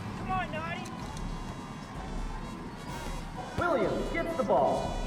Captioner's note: French